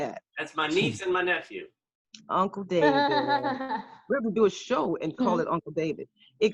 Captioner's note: laughter